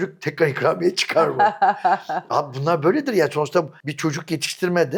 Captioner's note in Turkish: kahkaha